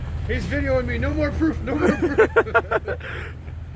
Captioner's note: laughing